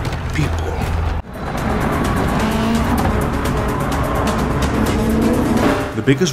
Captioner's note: the sound of cars racing fast